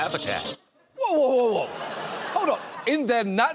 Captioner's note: audience laughs